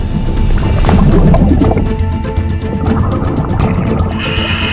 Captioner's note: oxygen bubbling in water; dramatic action music continues; oxygen tank hissing